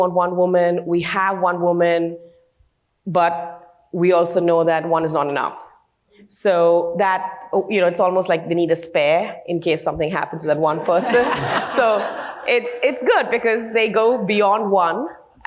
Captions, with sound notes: "one woman, we have one woman, but we also know "that one is not enough." It's almost like we need a spare in case something happens to that one person. (group laughing) So, it's good because they go beyond one